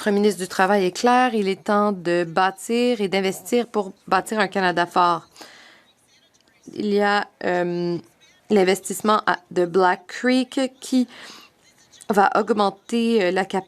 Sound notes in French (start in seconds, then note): 3.1 voix de l'interprète